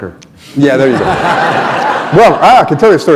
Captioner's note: laughter